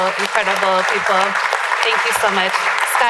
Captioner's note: applause